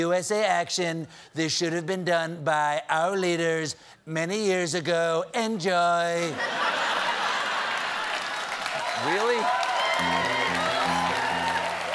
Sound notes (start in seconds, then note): 6.2 laughter; 7.6 applause